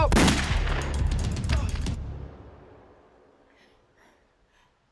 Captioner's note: gun shot